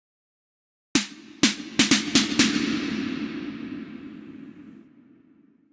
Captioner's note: loud thumping noise